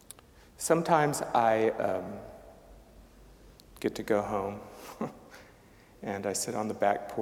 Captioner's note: chuckling